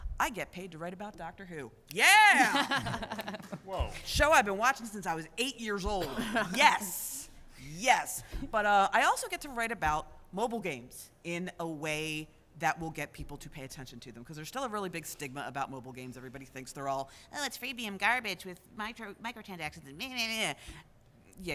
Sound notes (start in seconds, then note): 2.3 laughter